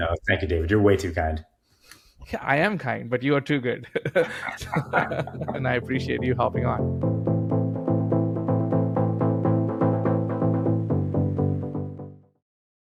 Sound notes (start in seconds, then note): 3.8 laughing; 6.9 upbeat music ends